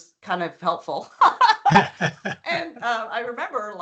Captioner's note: laughing